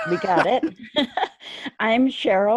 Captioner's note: laughing